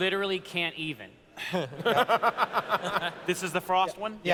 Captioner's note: laughter